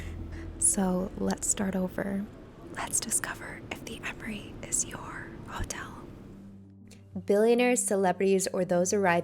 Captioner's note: whispering